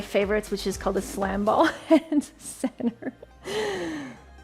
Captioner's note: chuckles; upbeat music